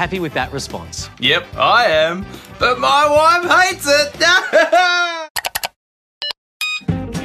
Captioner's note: laughs